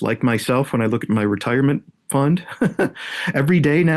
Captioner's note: laughs